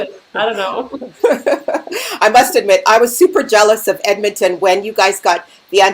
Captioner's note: laughing